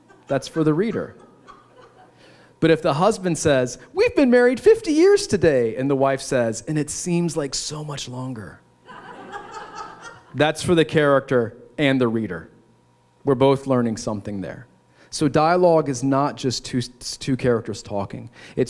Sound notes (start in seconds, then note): 8.8 laughter